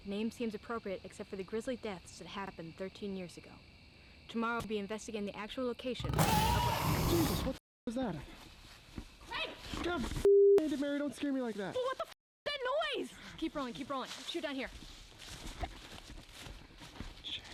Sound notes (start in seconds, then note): 6.4 Jay screaming; 6.4 snarling